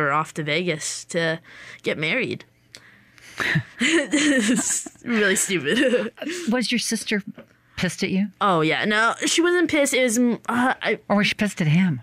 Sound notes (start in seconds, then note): 3.4 laughter